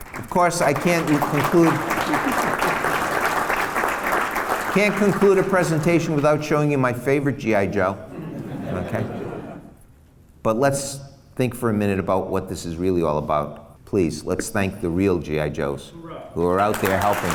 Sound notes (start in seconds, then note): 0.0 applause; 0.0 applause continues; 8.1 laughs; 16.6 applause